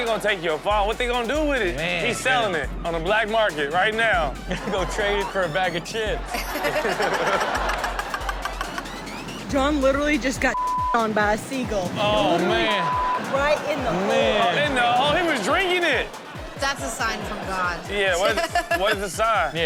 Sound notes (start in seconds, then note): 6.5 audience laughs; 10.5 beep; 12.4 beep; 13.1 audience laughs